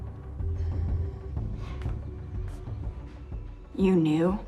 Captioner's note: Lara sighs